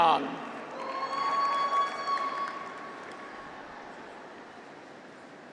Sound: graduates cheer

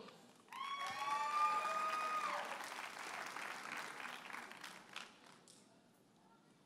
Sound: audience cheers and applauds

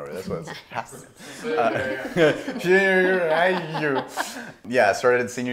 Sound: slurring

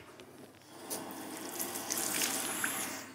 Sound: rushing water

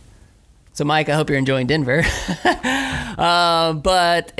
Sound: laughs

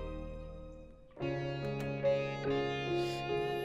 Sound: door closes

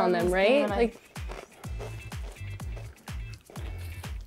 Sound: crunching

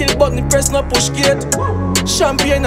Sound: wooo

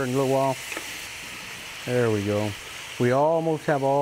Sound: meat sizzling

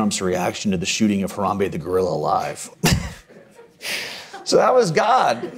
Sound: chuckles

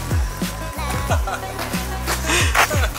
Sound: laughing

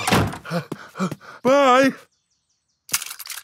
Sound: snorts; panting

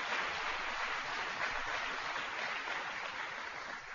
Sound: applause

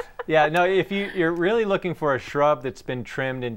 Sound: laughing

